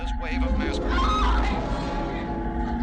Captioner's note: screaming